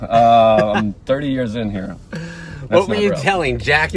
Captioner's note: laughing